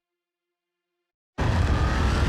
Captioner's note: none